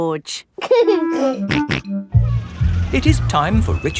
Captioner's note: giggling and snorting